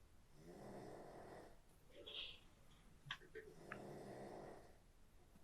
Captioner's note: Phil snoring